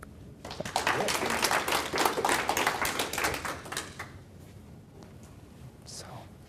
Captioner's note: applause